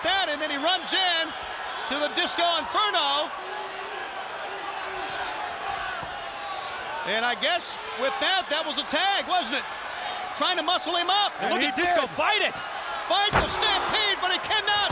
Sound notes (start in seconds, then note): 4.4 crowd cheering